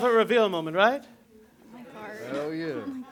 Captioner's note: chatter